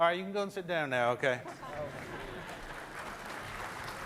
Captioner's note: clapping